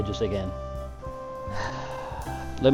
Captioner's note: sigh